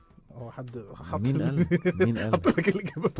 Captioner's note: laughter